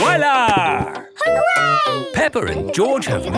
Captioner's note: laughing